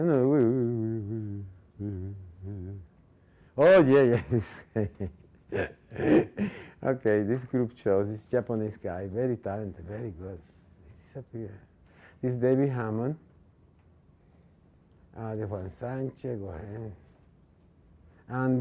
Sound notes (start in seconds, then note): 5.4 laughing